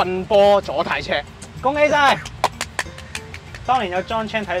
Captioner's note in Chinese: 鼓掌